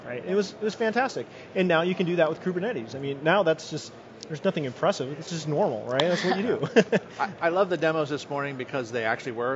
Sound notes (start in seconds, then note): 6.1 laughs